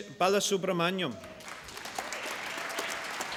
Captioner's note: applause